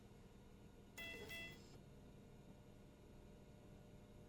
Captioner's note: sound of slow heartbeat on heart rate monitor